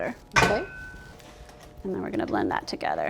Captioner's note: clanging